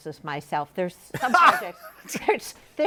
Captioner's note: laughs